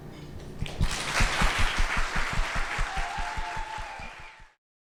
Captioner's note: audience applause